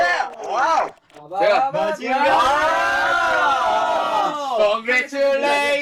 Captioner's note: cheer